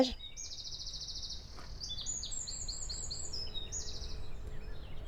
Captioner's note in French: bruits d'oiseaux